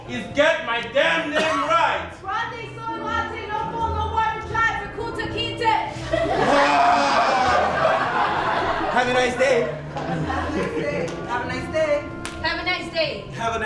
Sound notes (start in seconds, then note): 6.4 screams; 8.7 snap; 12.2 snap